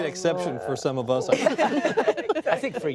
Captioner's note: laughter